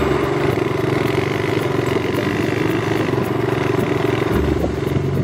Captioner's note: engine roaring